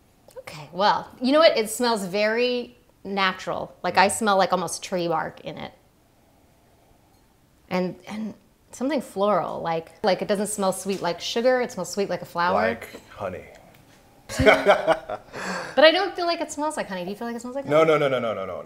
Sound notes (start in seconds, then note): 14.2 laughing